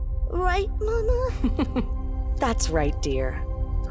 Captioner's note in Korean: 웃음